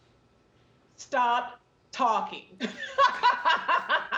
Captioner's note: laughing